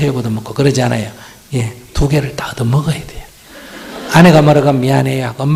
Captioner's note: audience Laughter